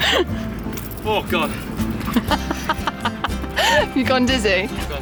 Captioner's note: laughing